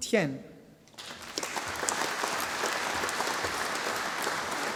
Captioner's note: audience applauding